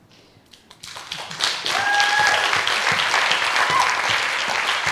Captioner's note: audience applauding